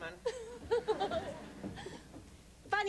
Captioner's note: giggles